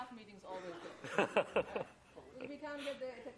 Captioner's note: laughter